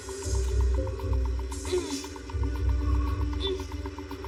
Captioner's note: grurunting